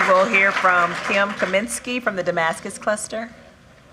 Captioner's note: applause